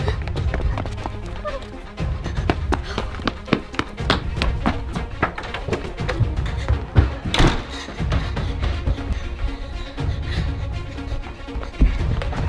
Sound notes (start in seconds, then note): 0.2 girl gasps; 2.4 footsteps clatter; 2.4 heavy breathing; 7.0 door slams